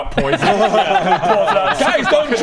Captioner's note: laughs